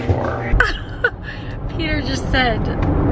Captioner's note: chuckling